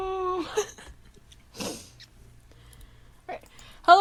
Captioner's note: sniffs; quietly